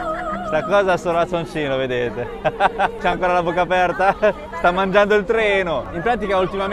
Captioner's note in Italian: risate